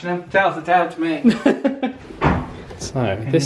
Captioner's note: laughs